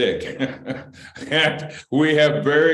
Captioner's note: laughter